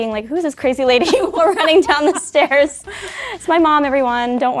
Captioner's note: laughing